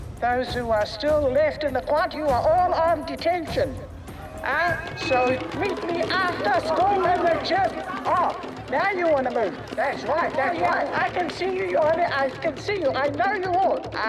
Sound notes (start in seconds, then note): 7.0 students clamour